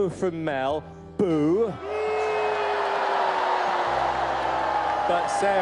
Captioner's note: crowd Boos